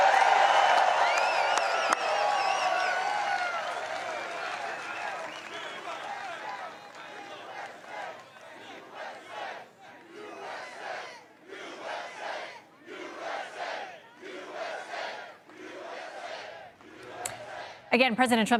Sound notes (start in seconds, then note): 1.9 cheering; 3.3 applause; 16.1 chanting u.s.a